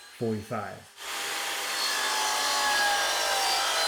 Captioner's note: saw whirring